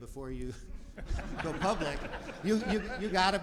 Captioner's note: audience laughs